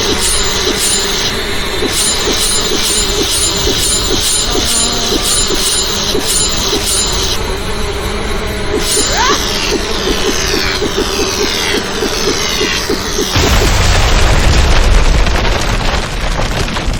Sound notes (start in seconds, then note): 9.0 Xu Xang grunting; 9.1 sword clanging; 13.3 explosion booming